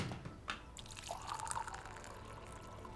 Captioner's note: tea pouring